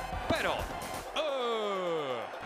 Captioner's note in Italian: Applauso